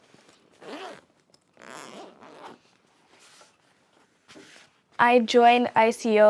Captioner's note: instrument bag zipping